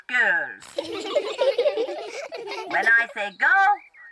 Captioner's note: all laugh